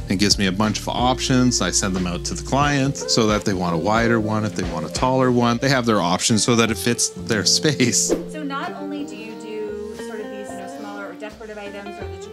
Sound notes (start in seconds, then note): 7.6 laughs; 8.0 air whips